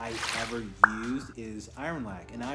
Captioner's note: swoosh pop